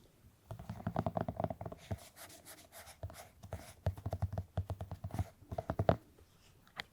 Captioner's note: Sound of petting the Hachiware mood light